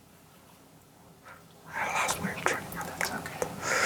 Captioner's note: whispering